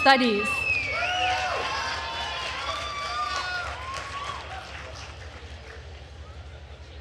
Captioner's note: attendees cheering and applauding